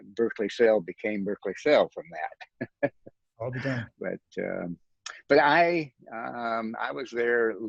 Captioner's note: chuckles